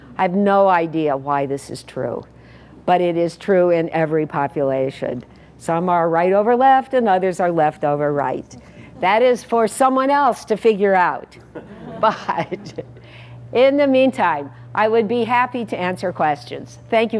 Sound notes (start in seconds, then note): 11.5 laugh